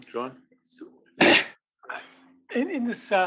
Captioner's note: cough